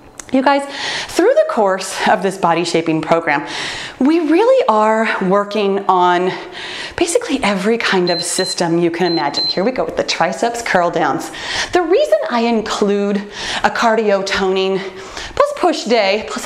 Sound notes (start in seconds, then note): 8.0 timer beeps